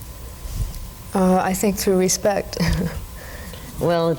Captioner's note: laughs